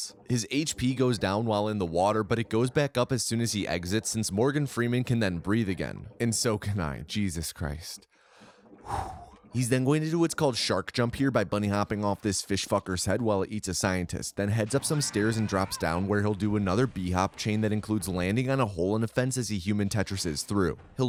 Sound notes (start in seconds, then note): 8.8 deep exhale